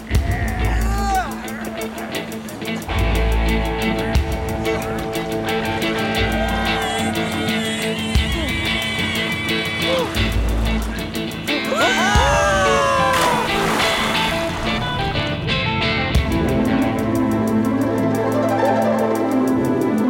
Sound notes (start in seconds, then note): 2.8 מוזיקה מתוחה אנרגטית; 11.6 כולם צורחים; 16.8 מוזיקה מתוחה חלומית